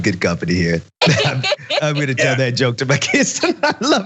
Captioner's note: laugh